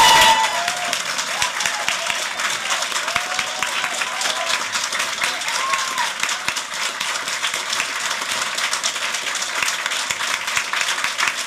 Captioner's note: applause